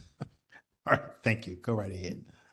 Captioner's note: laugh